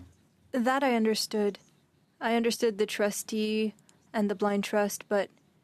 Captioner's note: speaking French